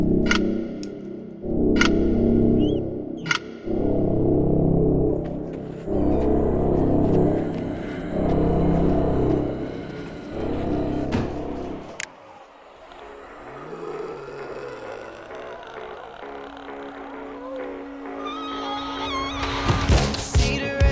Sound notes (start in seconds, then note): 6.4 zombie growling; 14.9 zombies growling; 19.4 upbeat rock music